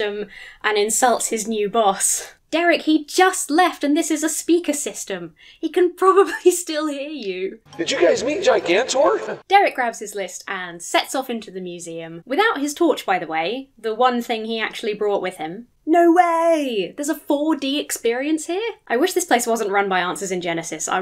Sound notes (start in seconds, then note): 7.7 upbeat ambient music; 7.8 chuckles